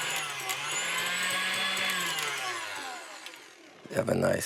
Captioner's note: mixer whirs faster